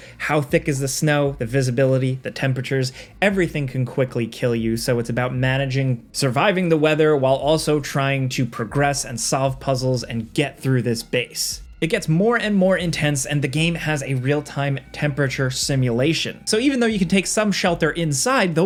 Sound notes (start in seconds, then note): none